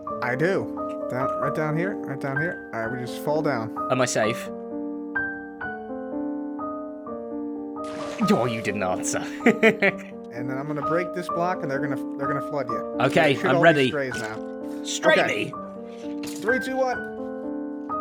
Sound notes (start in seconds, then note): 9.2 chuckles